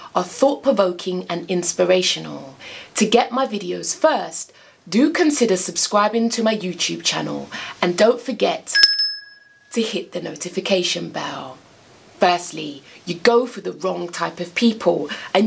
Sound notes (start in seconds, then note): 8.7 bell chimes